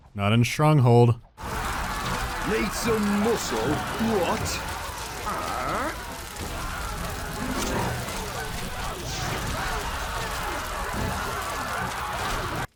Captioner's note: panicked screams and crackling of fire